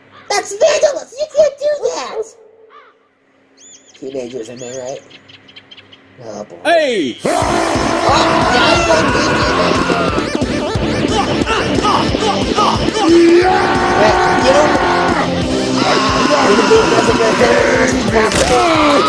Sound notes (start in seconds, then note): 7.2 Peppio gets angry & starts shouting at Teenage Scout